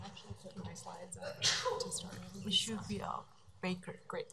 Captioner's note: whispering